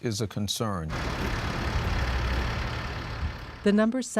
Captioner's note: engine running